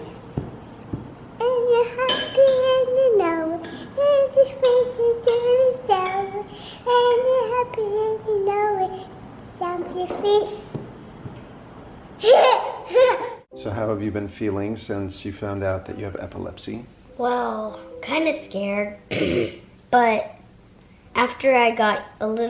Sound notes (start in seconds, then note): 0.1 stomping; 10.7 stomping